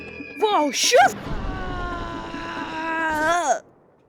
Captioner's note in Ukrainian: крик скаута